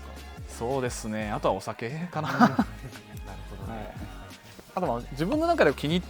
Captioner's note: laughs